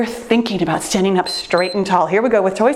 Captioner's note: timer beeps